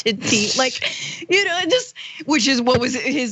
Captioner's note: laugh